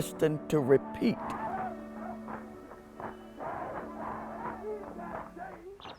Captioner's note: protesters chanting and clapping